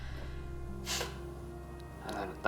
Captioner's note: snorts